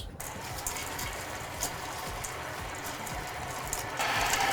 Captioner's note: mixer whirring